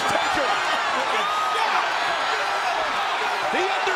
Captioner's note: audience cheers